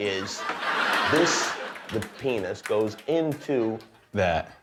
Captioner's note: laughter